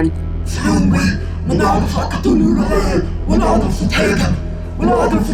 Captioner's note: speaks in R'lyehian